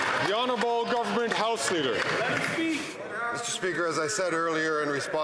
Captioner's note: some Applause